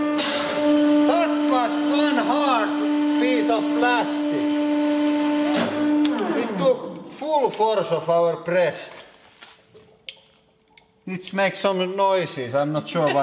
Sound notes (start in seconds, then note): 9.8 plastic: Crack, pop; 13.0 laughs